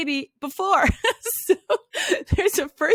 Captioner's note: laughs